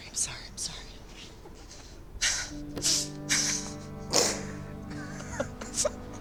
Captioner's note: laughing